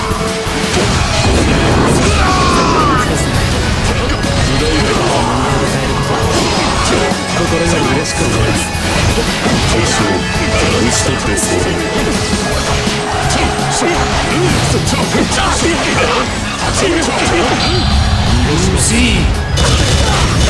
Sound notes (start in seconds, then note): 0.8 KO Scream